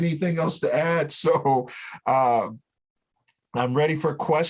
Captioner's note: laughter